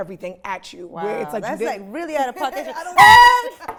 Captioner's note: laughing; horn blaring